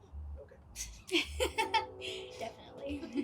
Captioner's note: laughs